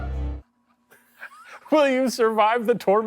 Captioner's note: wheezing